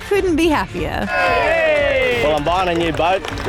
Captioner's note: all cheer